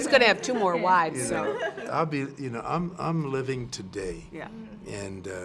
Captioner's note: laugh